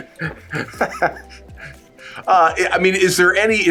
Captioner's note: laughs